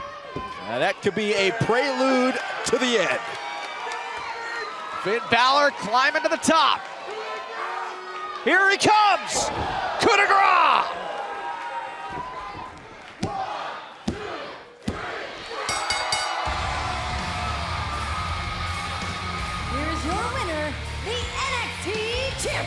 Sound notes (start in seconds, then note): 15.6 bell ringing